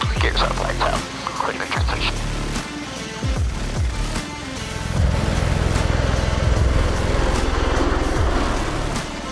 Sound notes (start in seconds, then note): 0.0 energetic upbeat music; 2.6 blades whirring; 2.6 energetic upbeat music